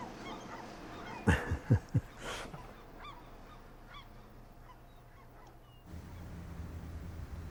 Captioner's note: birds chirp; chuckles